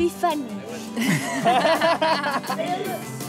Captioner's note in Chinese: 笑聲